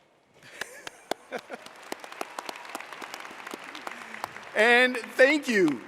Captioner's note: audience applauding